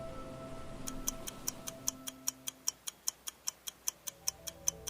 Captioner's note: clock ticks